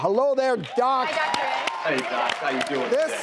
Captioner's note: clapping